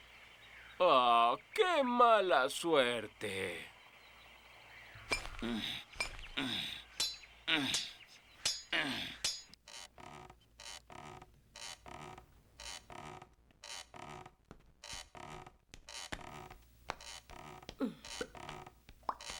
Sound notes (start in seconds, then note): 5.2 grunting